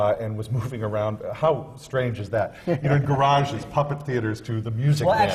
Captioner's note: laughs